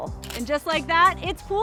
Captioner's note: shutter snapping